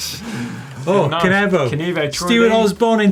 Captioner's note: gasps; laughs